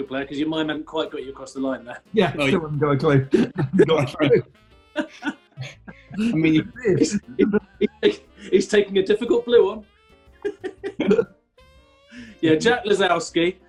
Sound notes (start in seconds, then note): 3.3 laughter; 10.4 giggling